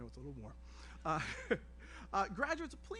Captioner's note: laughs